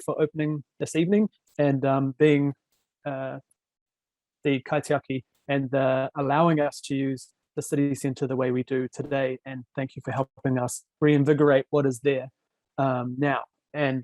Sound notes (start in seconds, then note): 3.3 speaking foreign language